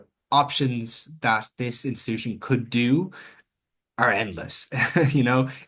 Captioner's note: chuckles